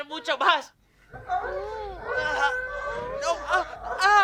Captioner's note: moans